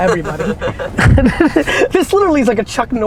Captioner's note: laughs